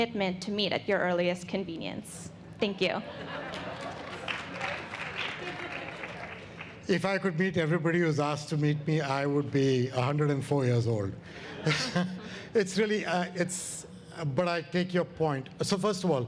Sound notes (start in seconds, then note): 6.8 audience applauds